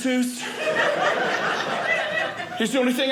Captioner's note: audience laughing